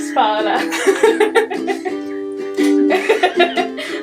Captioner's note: both laugh